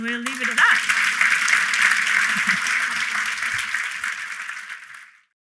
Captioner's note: applause